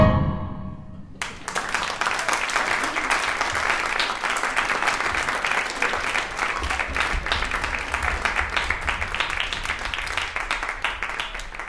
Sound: applause

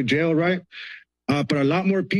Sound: sighs

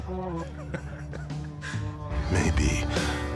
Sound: laughing

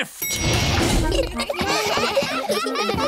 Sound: elevator bell dings; all giggling

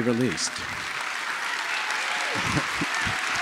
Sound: applause

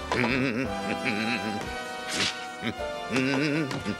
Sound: humming

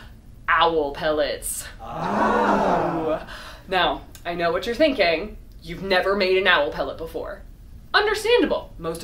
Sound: crowd oohs

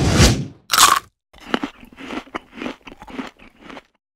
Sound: bite and munching sound

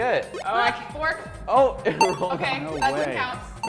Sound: laughs

